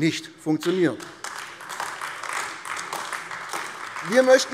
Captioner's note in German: Beifall AfD